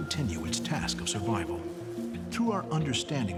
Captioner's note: bees buzzing